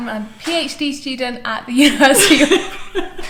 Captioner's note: dissolves into laughter